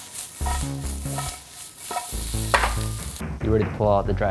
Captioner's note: onions sizzling